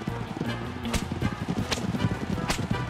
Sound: whipping noise

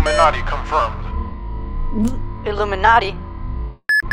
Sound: gulp

